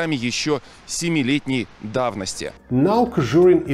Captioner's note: russian